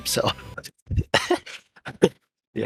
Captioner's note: giggles like an idiot